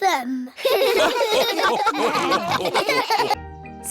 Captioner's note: all laugh